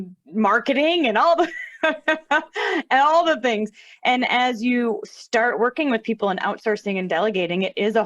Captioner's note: laughter